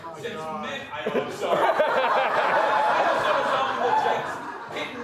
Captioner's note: crowd laughing